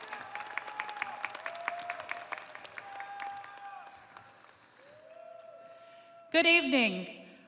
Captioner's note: audience cheering